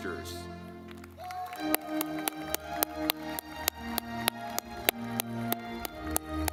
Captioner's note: lively music; audience clapping